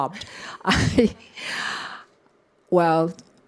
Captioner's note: chuckles